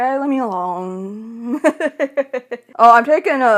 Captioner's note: laughs